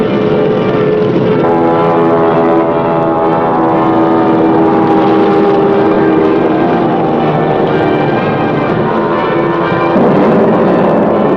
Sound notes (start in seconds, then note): 4.3 airplane engine roaring